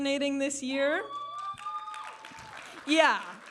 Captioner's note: audience applauding and cheering